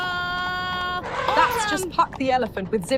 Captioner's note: elephant trumpets